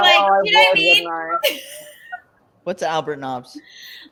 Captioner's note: laughs